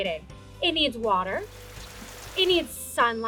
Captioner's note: rain pouring